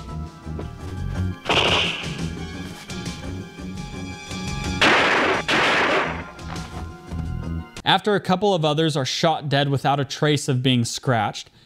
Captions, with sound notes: (gunshot) (gunshots) After a couple of others are shot dead without a trace of being scratched,